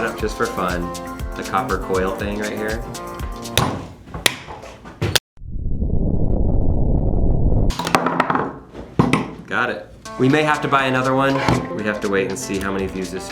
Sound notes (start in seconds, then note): 5.1 bomb exploding